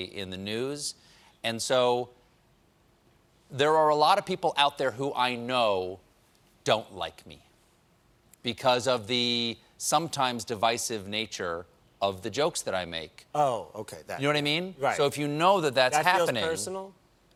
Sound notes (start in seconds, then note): none